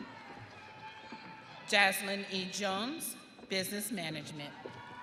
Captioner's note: audience cheering